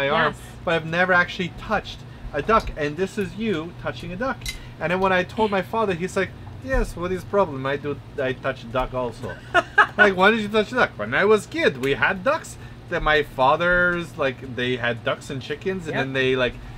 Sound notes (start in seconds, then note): 6.3 heavy European accent; 9.3 laughs